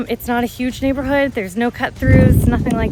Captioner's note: air whooshing